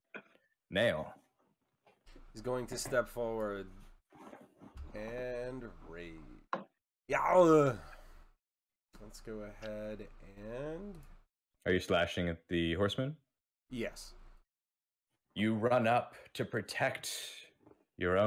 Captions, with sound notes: Nail... He's going to step forward ...and Rage... [yelling] "Y'argh..." Let's go ahead... and... Are you slashing at the Horseman? Yes. You run up to, protect your own...